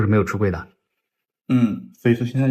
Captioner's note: nonverbal grunt as interjection